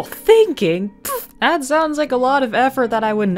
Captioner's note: pfffht